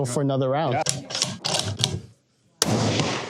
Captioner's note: clicking